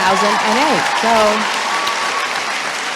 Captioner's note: applause